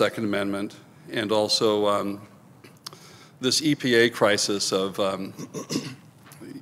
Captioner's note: clears throat